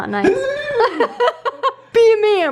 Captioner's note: imitates gorilla